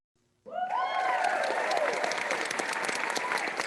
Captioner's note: crowd cheers